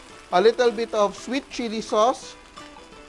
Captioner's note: sizzle